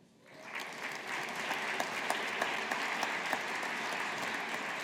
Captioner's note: audience applauding